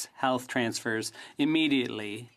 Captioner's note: speaking French